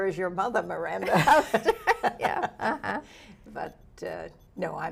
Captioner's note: laughs